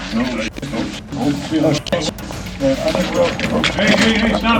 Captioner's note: group chattering